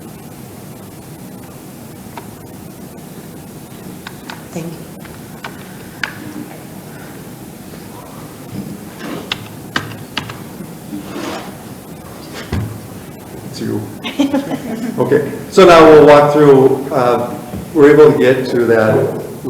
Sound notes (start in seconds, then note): 14.0 people chuckle